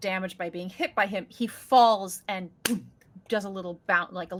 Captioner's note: imitates bang